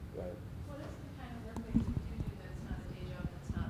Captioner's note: voiceover